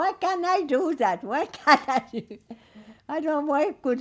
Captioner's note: laughing